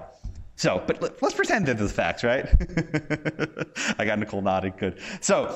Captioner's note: laughs